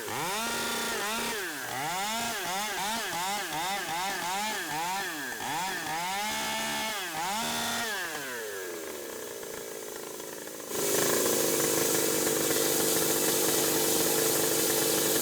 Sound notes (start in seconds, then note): none